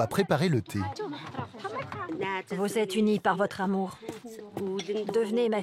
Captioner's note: foreign spoken audio